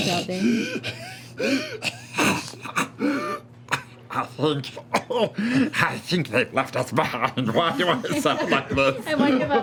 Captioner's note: wheezes